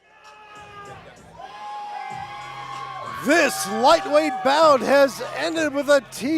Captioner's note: crowd cheers